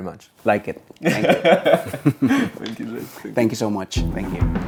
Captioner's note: both laughing